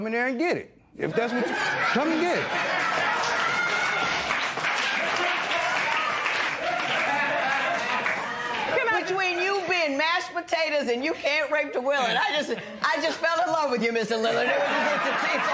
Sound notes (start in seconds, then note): 1.2 laughter; 2.7 applause